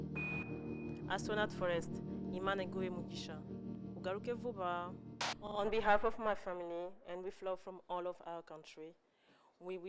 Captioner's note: speaking kinyarwanda